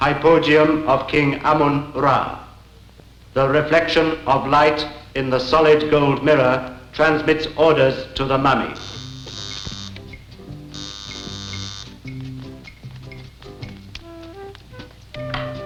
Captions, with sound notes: Hypogeum of King Amun Ra. The reflection of light in the solid gold mirror transmits order to the Mummy. (doorbell ringing) (pleasant music)